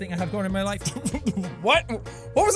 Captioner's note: laughing